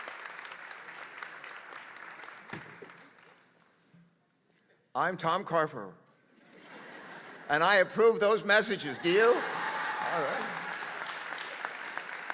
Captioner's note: applause